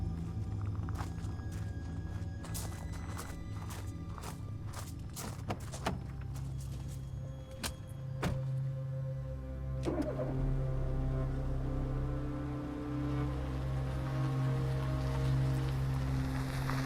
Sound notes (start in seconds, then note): 5.5 door clicks and thuds; 9.9 engine humming; 11.9 soft dramatic music